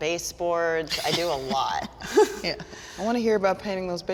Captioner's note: laughs